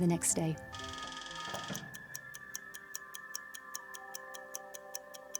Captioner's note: clock whirring and ticking